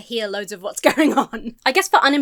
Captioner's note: laughs